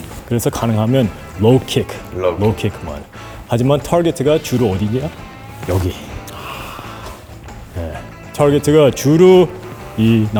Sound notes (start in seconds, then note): 6.2 gasp